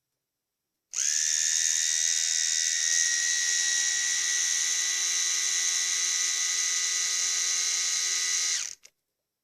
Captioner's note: mechanical sound of trimmer operation